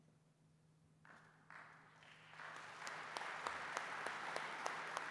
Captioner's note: applause